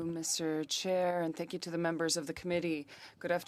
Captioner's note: speaking French